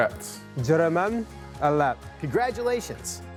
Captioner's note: speaking foreign language